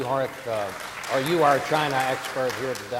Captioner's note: audience applauding